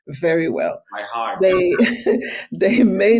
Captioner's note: laughing